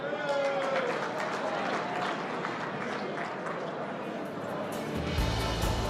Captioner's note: applause